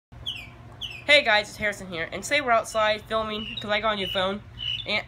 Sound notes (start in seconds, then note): 0.2 bird chirping